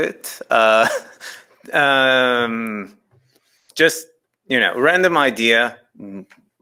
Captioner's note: chuckles